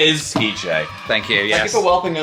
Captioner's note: children cheering